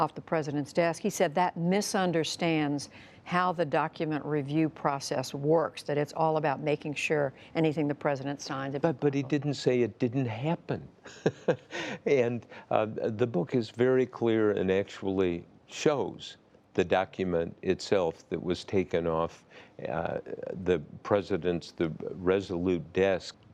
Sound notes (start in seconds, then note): 11.0 laughter